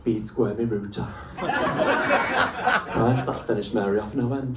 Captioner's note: laughter